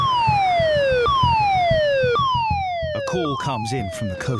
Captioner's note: alarm blaring